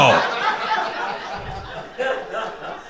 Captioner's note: crowd laughing